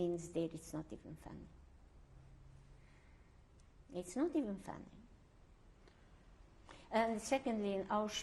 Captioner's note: pauses for 3 seconds